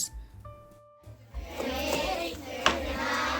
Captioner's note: kids chanting